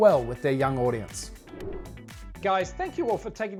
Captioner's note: wind sound effect